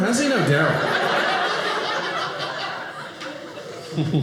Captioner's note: audience laughing